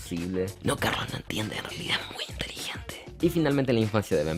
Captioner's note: whispering